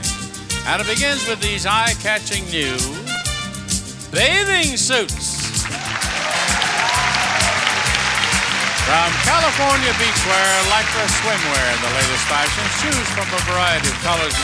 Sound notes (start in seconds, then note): 5.1 audience cheering and clapping